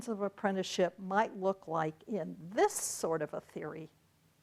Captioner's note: none